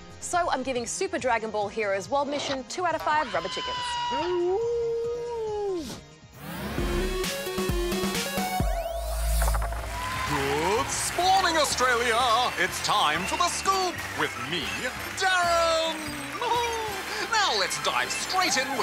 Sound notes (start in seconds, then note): 4.2 whines; 10.3 applause